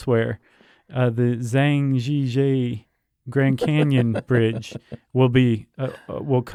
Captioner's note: laughs